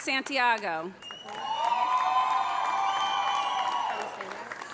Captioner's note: audience applauding; audience cheering